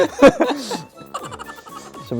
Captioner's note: laughing secretly